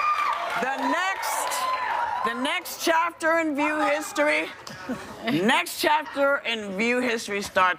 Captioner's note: applause